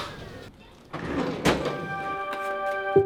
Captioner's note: drawer banging; gentle music